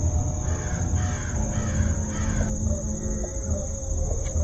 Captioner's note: bird caws